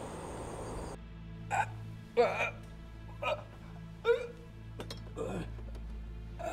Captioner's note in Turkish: İnleme sesleri